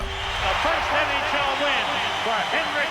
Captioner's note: cheers and applause